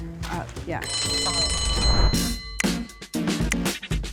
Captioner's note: bell rings; upbeat music